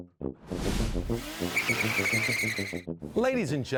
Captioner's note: tuba tooting; air whoosh; wheels skidding off